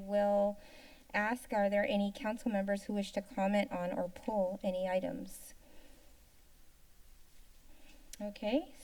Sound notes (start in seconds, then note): 5.4 inhales; 5.5 silence